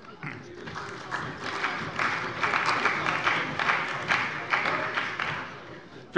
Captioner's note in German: Beifall bei der CDU und dem BÜNDNIS 90/DIE GRÜNEN